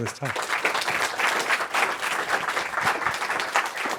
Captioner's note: applause